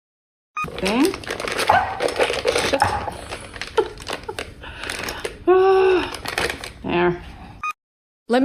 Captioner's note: laughs